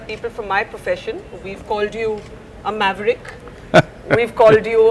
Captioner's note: Sadhguru laughs